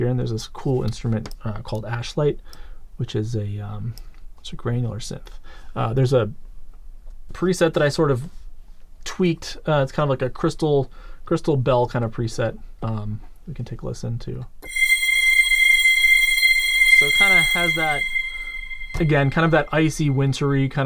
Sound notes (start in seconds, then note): 14.6 crystal chiming